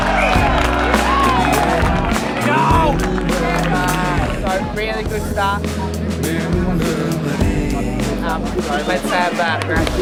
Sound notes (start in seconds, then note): 0.0 yells and crowd claps; 2.1 crowd whoops